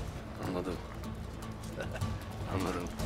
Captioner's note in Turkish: Gülme sesi